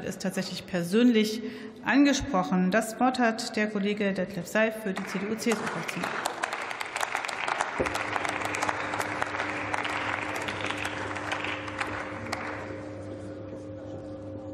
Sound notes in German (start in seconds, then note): 5.7 Beifall